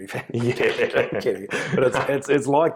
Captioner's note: chuckles